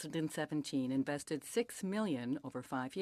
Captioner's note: speaking French